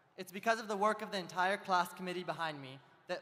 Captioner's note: none